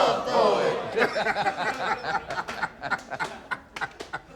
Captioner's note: laughs